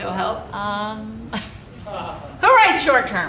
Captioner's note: audience member laughing